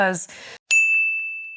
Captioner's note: bell dings